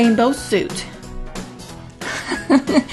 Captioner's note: laugh